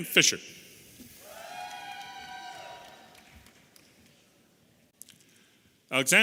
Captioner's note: audience applauding and cheering